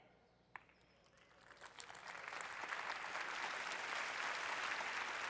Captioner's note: applause